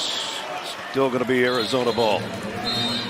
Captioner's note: whistle